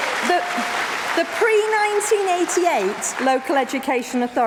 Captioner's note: applause